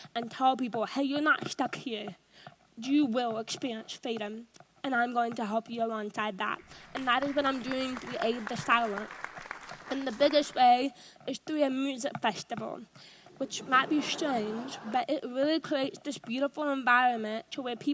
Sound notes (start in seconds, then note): 6.6 audience applauds; 13.3 audience laughs